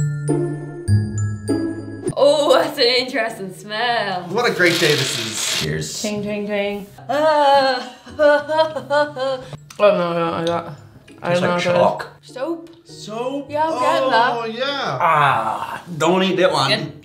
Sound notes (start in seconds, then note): 7.7 disgusted noise